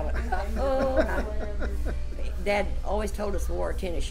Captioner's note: laughs